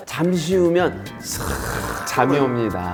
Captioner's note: slurp